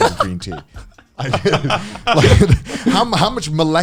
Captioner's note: men laugh